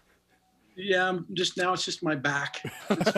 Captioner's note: laughing